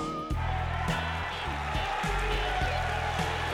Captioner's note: game hubbub